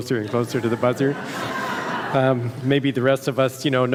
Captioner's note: audience laughs